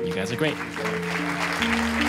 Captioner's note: applause